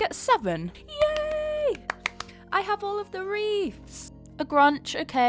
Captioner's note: claps